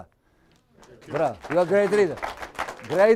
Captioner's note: applause